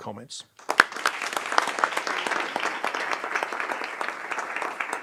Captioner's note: audience clapping